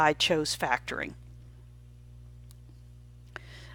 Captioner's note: silent